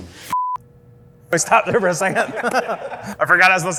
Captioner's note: laughs